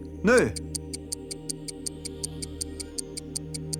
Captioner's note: clock ticking